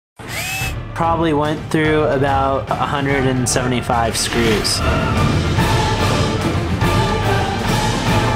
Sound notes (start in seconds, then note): 0.1 dramatic music; 0.2 drill buzzing